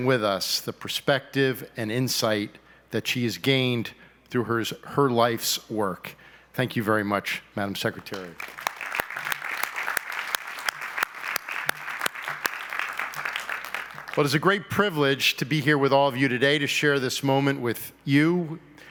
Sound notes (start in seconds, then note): 8.0 applause